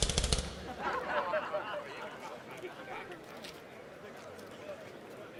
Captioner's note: laughter